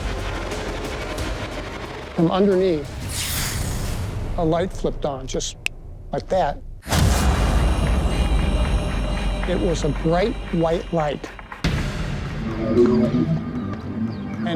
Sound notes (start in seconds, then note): 5.4 snapping; 12.3 otherworldly sound